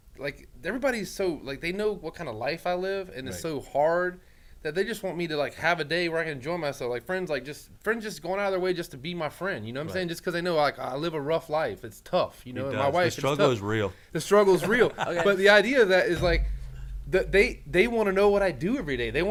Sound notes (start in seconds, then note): 14.5 laughs